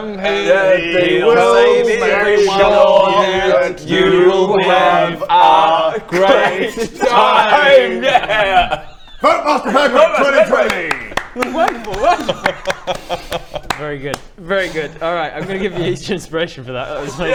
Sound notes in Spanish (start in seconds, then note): 10.5 aplausos